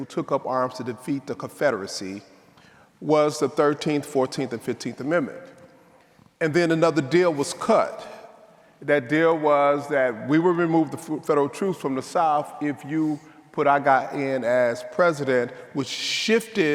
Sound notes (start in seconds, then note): none